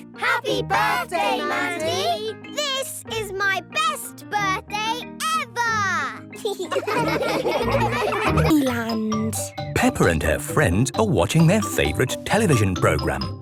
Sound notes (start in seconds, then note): 6.4 laughing